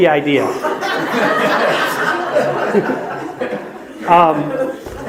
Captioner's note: audience laughs